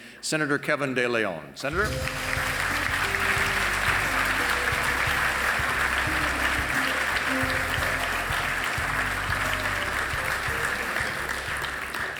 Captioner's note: applause